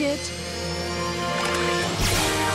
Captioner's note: zapping